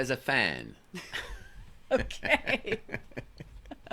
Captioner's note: both laughs